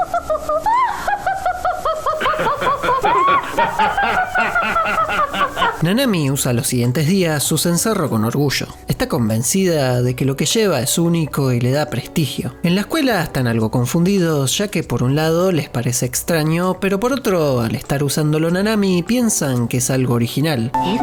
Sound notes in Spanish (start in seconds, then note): 0.0 Ríe; 3.9 Risas más fuertes